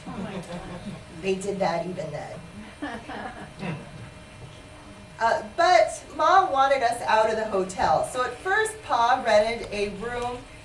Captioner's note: laughter